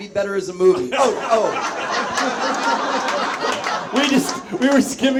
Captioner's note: audience laughs